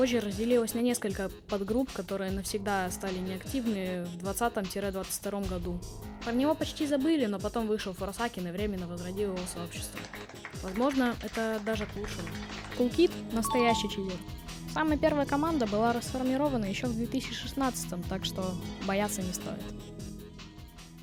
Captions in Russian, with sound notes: а позже разделилась на несколько подгрупп,которые стали навсегда неактивны в 20-22 году. про него почти забыли,но потом вышел форсакен и временно возродил его сообщество. (хлопки) возможно,это даже к лучшему. кулкид настоящий читер. самая первая команда была расформирована еще в 2016, так что... боятся не стоит.